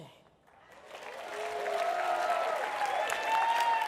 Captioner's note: applause